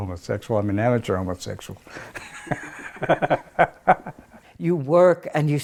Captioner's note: laughs